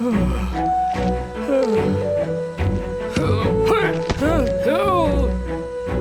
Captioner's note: uplifting music; Moses groaning